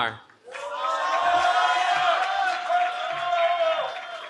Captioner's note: cheering